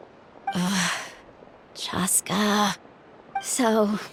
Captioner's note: sigh